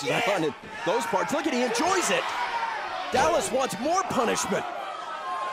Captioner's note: crowd chatter